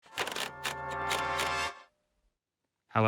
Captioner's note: wheel clicks